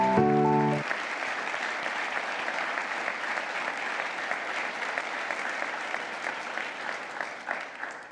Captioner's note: applause